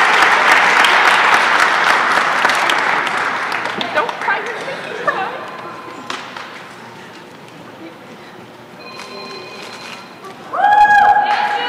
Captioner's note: applause and cheering